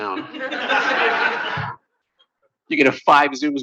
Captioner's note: laughter